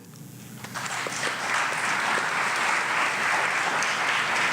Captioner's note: audience applauds